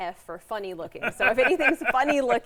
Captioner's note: laughs